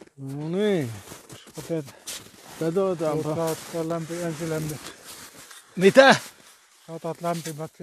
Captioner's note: shoveling